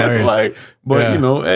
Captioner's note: laughing